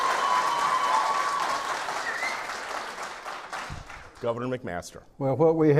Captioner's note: clapping